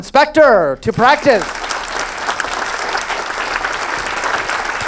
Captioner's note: audience claps